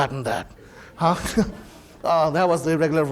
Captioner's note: audience laughing